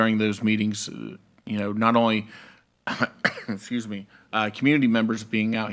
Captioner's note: coughs